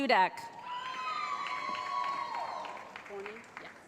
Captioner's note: cheering